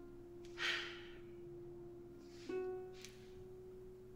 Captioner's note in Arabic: تنهد